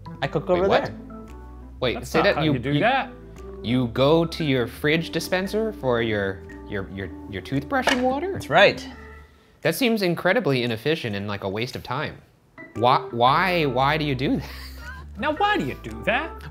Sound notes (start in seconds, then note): 14.4 laughs